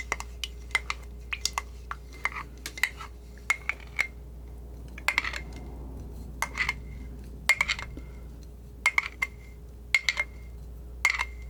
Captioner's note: scratching